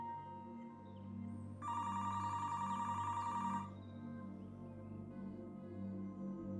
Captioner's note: phone ringing